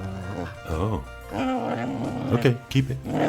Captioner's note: growling